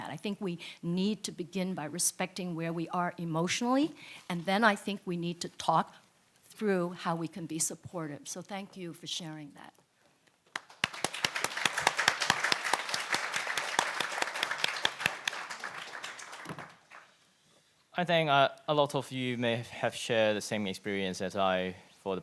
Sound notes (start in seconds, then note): 10.5 audience applauds